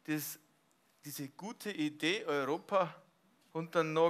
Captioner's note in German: none